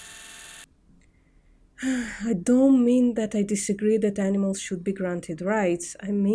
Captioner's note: sigh